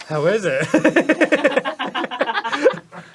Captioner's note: laughter at expense